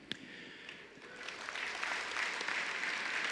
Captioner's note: applause